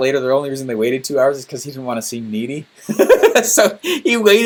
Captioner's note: laughing